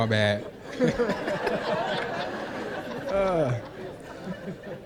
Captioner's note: laughter